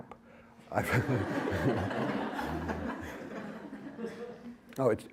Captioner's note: laughter